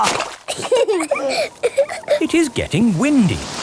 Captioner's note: both laughing